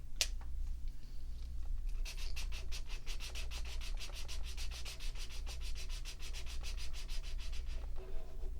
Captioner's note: marker sounds